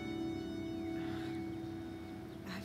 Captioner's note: Sighs